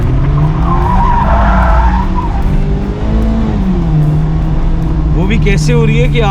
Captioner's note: car drifting sound